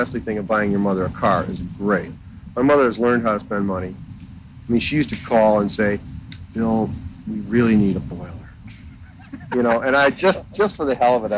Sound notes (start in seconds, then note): 8.7 laughter